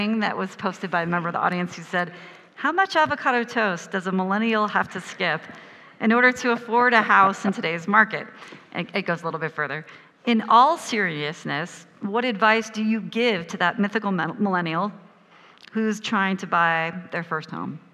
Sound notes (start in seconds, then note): 6.8 laughs